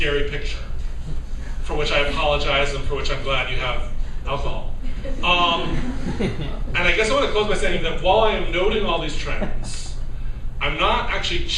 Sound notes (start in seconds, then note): 4.8 laughter